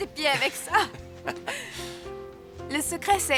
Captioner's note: laughing